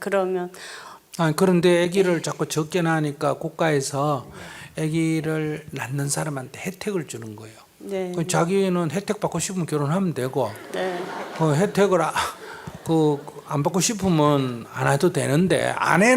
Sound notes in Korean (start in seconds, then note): 10.5 청중 웃음